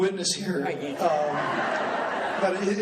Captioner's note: laughing